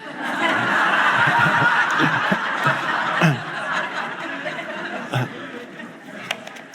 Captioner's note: audience laughs; Eckhart laughs